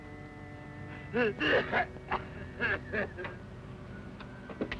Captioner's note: Jeff sobbing